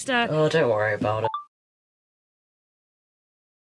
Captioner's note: chime of a phone recorder turning off